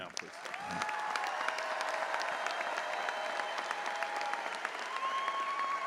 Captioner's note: audience applauding and cheering